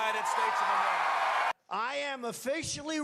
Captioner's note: cheering